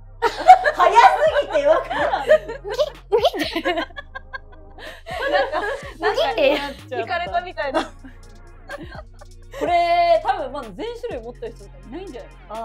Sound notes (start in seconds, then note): 3.4 laughs